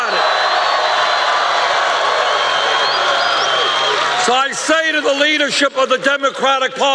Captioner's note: cheers and applause